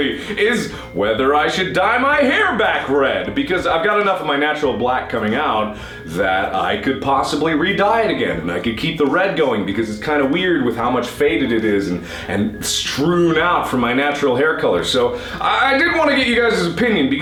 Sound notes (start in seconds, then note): 5.7 inhale